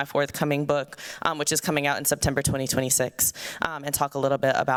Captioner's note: none